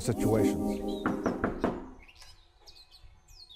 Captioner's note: knocking